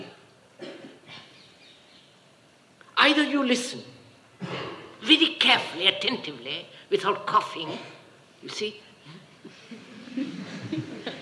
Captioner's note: laughter